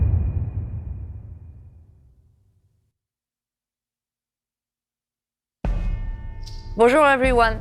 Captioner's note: dramatic sound